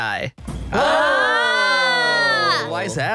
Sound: cheers

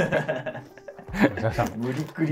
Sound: laughing

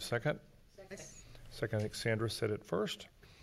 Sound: multiple Voices

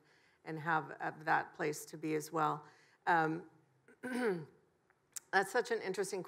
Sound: clears throat

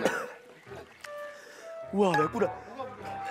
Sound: coughing

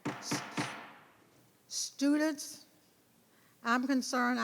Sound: gavel banging

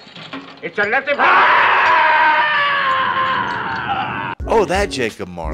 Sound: scream

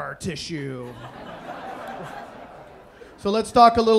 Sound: audience laughing

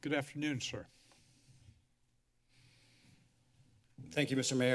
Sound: silence

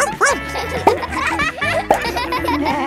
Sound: barks

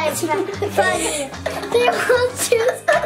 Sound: laughing

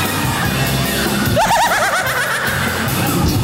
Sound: laughing

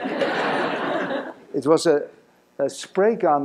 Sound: laughter

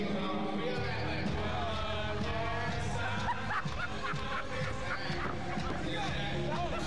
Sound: laughter

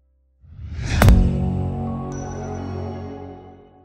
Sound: air whooshing

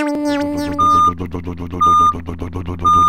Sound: back up beeper

